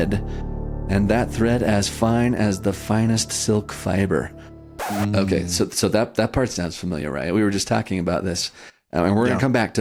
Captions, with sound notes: and that thread as fine as the finest silk fiber." [record scratch] Okay, so that, that part sounds familiar, right? We were just talking about this, and we're going to come back